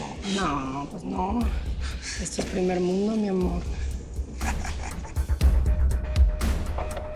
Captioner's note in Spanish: Risas